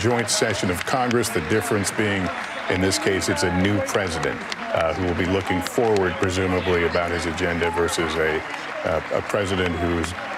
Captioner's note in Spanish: aplausos